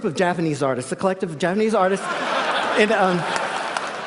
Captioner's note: laughter